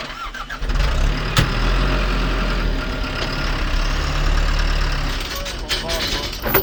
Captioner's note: sounds of chains and heavy equipment